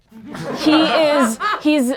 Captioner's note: laughing